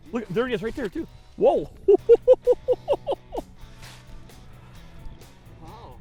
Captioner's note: laughter